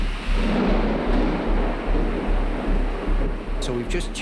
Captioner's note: rain and wind; thunder crack